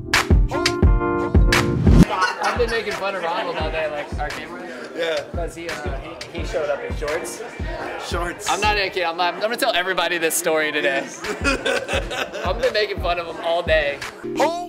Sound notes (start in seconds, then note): 10.8 laughing; 14.5 peppy electronic music